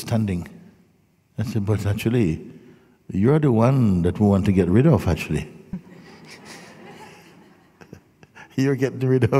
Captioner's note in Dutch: gelach